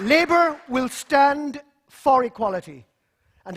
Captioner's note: applause